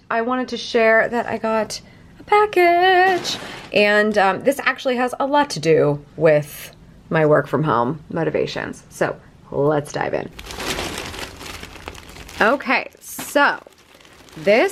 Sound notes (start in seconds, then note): 10.3 plastic crinkling